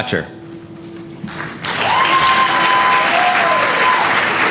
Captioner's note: applause